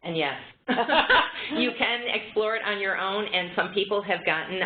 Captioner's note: laughter